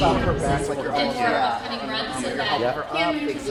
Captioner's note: indistinct chatter